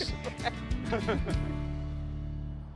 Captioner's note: upbeat music ending; both laughing